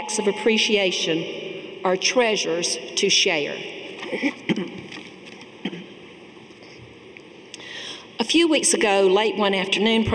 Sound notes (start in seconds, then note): 4.0 clears throat